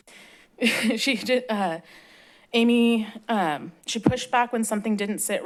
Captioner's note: chuckles